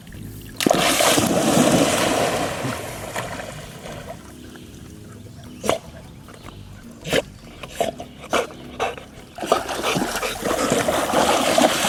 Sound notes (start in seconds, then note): 0.8 water splashing; 6.4 dog snorting